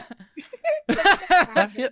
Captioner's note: both laughing